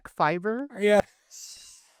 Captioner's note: laughing